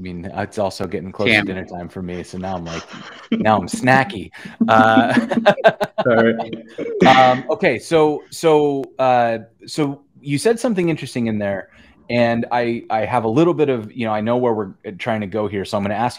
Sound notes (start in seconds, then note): 4.6 laughter